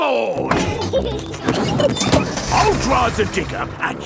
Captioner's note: peppa and george laughing